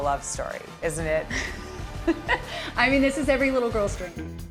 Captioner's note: giggles